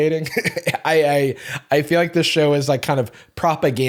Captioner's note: chuckles